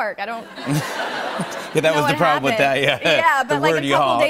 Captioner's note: laughter